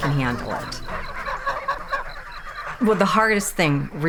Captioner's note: honking